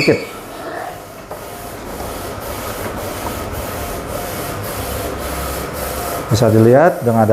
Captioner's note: printer machine noise